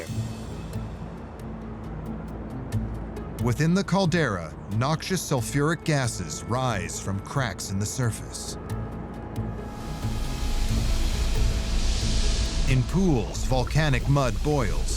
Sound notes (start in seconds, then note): 0.0 epic music; 9.5 ominous music; 9.7 gases hissing